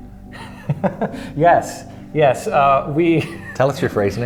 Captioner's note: laughing